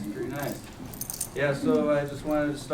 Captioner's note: none